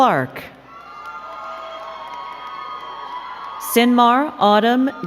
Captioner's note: crowd cheering and clapping